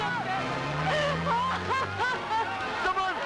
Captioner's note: Najma crying